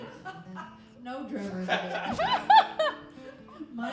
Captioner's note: laughing